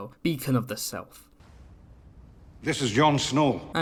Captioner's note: awkward silence